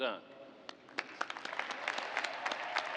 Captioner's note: cheers and applause